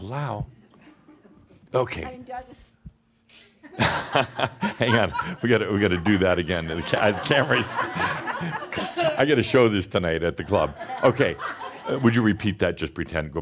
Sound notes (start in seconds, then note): 3.6 chuckling; 7.8 laughter